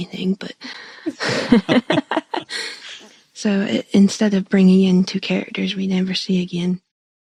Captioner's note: laughter